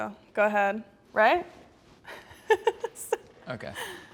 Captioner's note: laughs